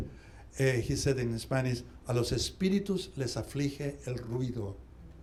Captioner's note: speaking spanish